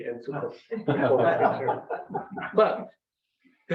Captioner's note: members laugh